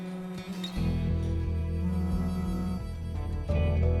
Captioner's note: phone vibrating